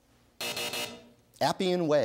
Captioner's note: buzzer